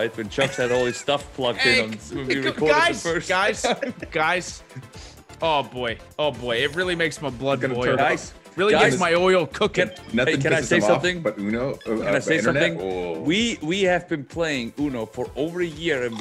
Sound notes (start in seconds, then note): 1.5 laugh